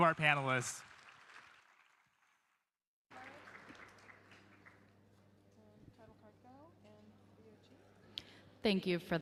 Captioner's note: applause